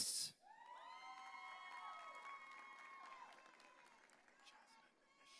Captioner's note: audience cheering